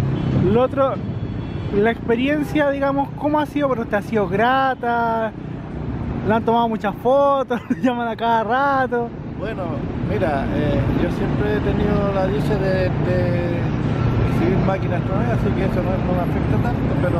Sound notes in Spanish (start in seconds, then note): 7.5 risas